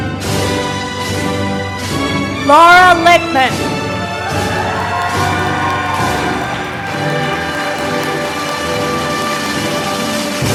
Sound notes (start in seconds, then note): 3.4 applause